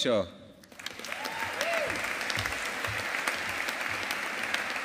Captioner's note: audience applauding